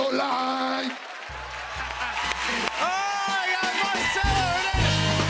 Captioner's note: cheers and applause; laughter